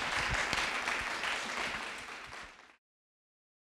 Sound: audience clapping

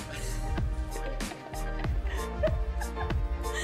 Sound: laughter

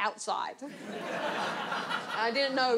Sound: audience laughs

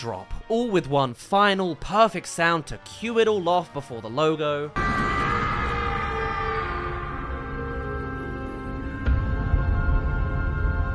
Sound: screams

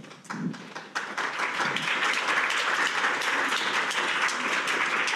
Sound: audience applauding

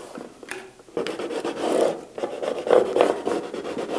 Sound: scratching

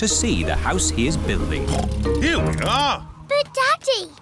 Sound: oinks

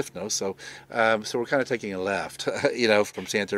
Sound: chuckles

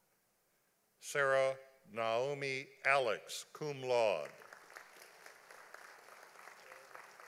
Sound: audience applauding

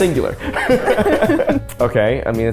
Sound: laughing

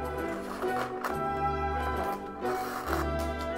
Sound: sound of string being pulled

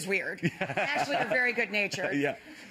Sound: laughs

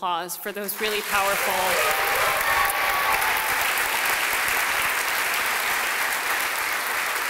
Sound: applause

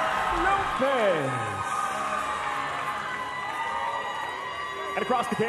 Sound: crowd cheering

